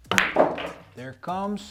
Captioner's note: ball bangs